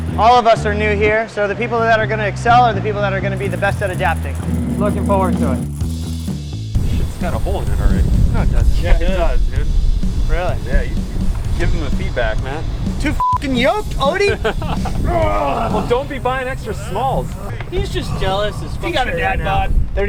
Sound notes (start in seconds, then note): 13.4 laughing; 14.6 growls